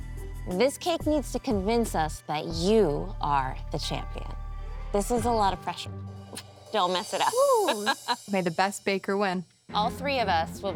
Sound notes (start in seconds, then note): 7.3 laughing